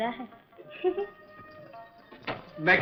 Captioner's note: laughs